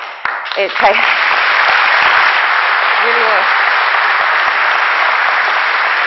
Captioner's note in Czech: potlesk